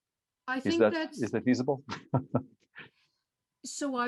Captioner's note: laughs